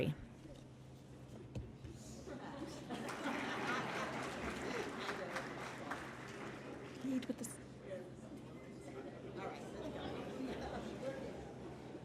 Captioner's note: applause